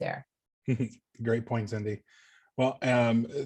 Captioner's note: chuckling